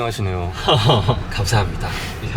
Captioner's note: laughs